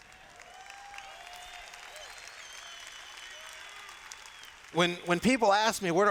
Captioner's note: cheers